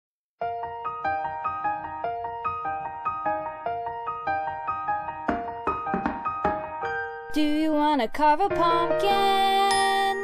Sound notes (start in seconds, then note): 0.4 background music begins; 0.4 piano solo; 5.2 knock on the door